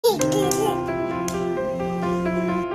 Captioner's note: baby playing and clapping; cheerful music